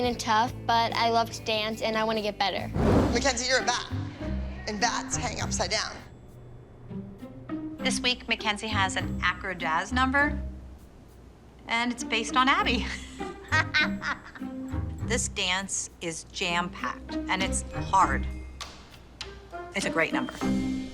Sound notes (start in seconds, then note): 12.7 laughs